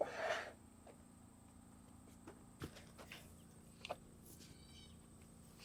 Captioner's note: wood scraping metal